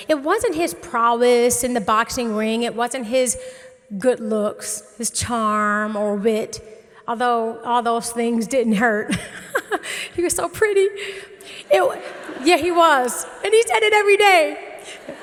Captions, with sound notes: it wasn't his prowess in the boxing ring, it wasn't his good looks, his charm or wit, although all those things didn't hurt (laughs) He was so pretty. (audience laughing) Yeah, he was and he said it every day.